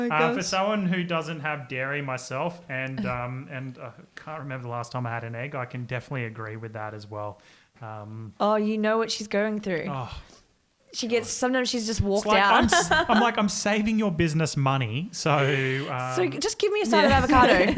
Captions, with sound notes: For someone who doesn't have dairy myself, and can't remember the last time I had an egg, I can definitely agree with that as well. - Oh, you know what she's going through. Sometimes she's just walks out. (laughs) - I'm like I'm saving your business money. - So just give me a side of avocado.